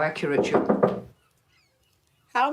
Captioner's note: knocking on glass